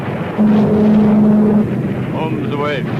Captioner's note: plane engine revving